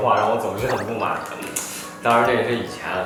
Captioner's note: eating